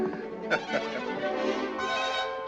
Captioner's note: laughs